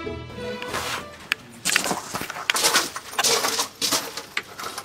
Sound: crunching of footsteps on gravel

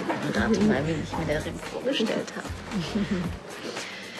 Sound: both giggle

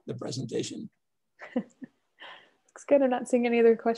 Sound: chuckling

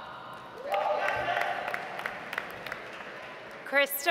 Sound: audience applauds

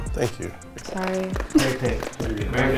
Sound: men clapping

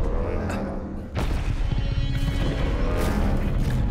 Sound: growling

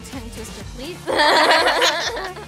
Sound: laughing

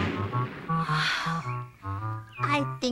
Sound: sighs

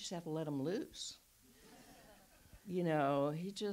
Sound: audience laughs

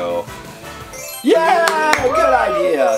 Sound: Mr. Engineer applauding

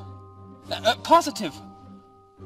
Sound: stuttering

